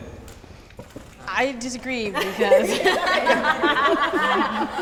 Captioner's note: laughter